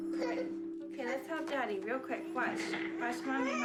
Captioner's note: whimpering